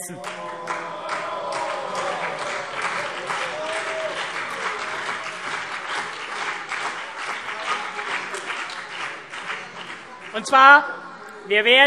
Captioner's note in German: Beifall CDU und BÜNDNIS 90/DIE GRÜNEN - Zurufe: Oh, oh, oh!